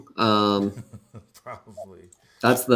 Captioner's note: laughs